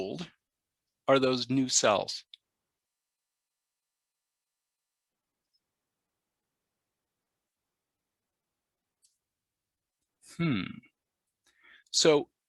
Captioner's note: pause